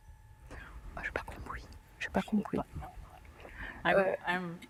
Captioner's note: whispering in french